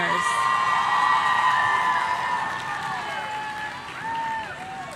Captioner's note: audience cheering